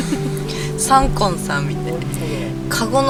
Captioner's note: laughs